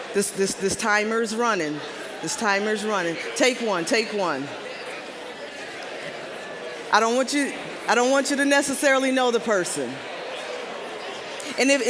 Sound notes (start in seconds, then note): 4.3 general chatter